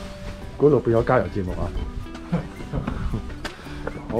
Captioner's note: laughs